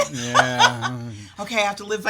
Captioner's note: laughs